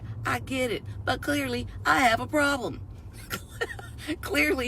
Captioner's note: laughs